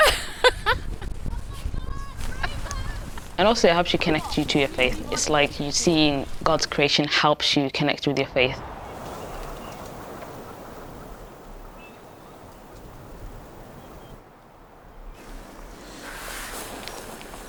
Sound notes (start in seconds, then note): 0.0 laughing; 8.4 birds chirping; 8.8 wind rustling